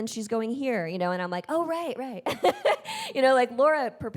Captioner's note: chuckles